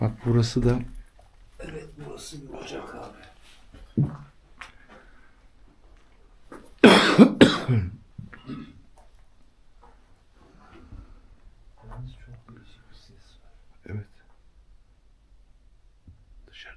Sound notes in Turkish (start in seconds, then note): 6.7 öksürme; 6.8 boğazını temizler